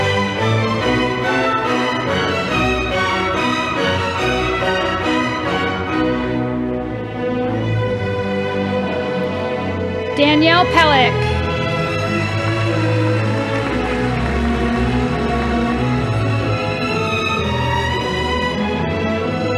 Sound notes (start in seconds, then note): 12.6 audience applauding